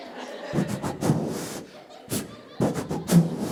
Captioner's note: blowing air